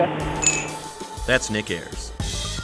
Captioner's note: glass being clinked